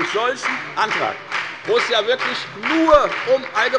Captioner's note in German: Beifall bei der FDP